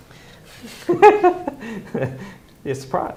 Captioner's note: laughing